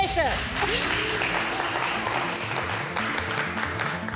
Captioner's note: euphoric music; applause